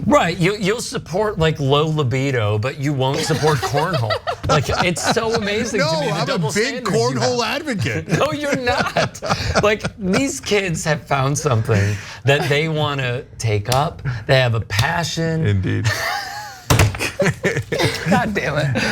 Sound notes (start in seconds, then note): 3.1 laugh; 16.9 laugh